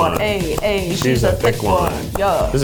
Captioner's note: clapping